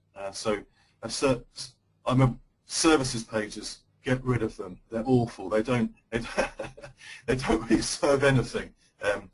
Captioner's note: laughter